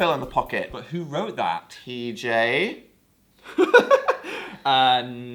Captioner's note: giggles